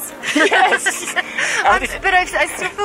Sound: both laugh

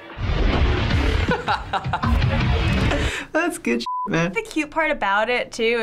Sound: laughs

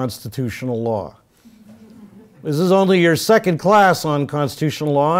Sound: laugh

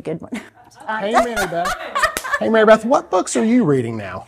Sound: laughing

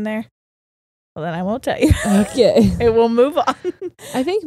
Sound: laughs

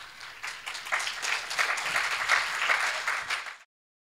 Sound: clapping

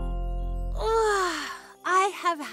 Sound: yawns

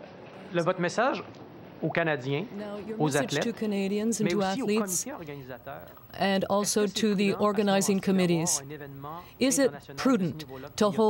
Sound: speaking french

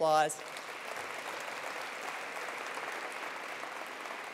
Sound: attendees applauding

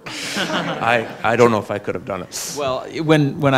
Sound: laughs

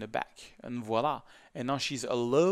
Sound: speaks in foreign language

